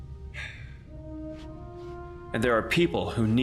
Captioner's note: Miles sighs